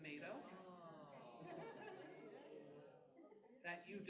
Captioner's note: chuckles